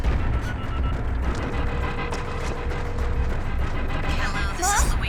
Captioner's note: speed-dial beeping; line ringing